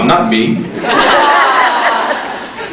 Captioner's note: laughs